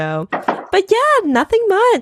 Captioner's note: cup clunking